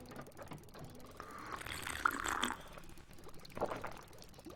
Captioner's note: slurping